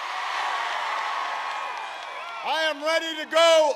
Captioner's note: applause